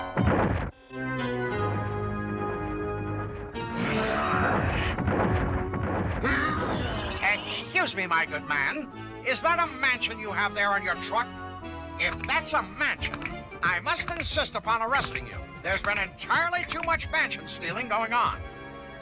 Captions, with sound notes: (GROWL) EXCUSE ME, MY GOOD MAN! IS THAT A MANSION YOU HAVE THERE ON YOUR TRUCK? IF THAT'S A MANSION, I MUST INSIST UPON ARRESTING YOU! THERE'S BEEN ENTIRELY TOO MUCH MANSION STEALING GOING ON!